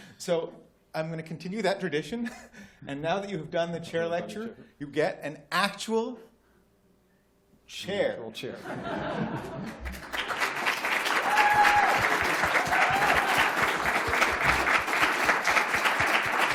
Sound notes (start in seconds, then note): 8.6 laughter; 9.6 applause